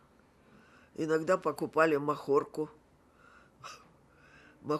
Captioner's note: laughing